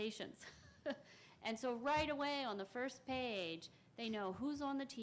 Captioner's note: chuckles